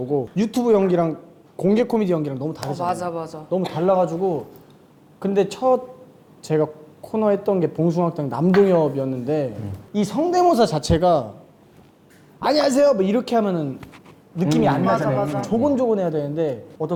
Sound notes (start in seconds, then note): 12.3 Shin Dongyeob's unique way of speaking